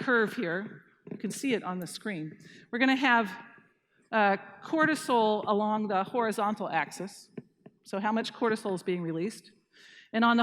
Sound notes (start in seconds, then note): none